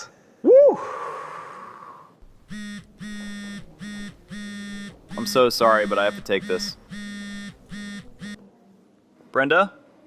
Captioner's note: Zach’s cell phone buzzes